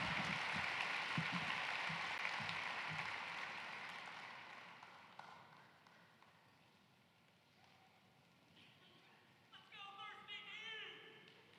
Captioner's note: cheering and applause